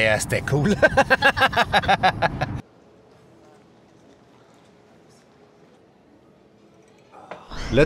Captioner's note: laughs